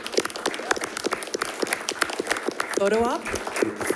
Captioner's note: applause